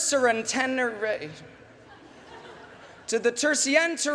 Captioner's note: laughter